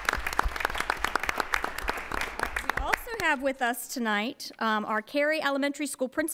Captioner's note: applause